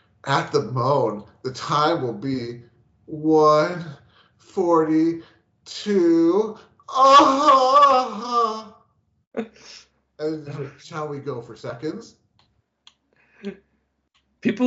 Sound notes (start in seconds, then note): 10.2 groans